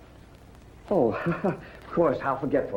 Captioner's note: laughs